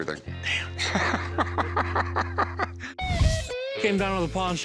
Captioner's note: laughs